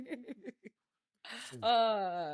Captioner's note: laughing